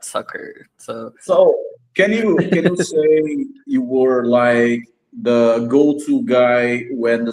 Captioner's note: laughs